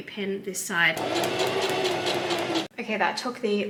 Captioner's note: sewing machine surges